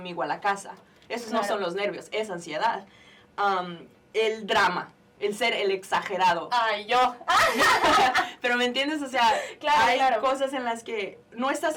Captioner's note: joking, laughing